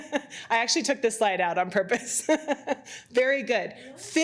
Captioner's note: laughs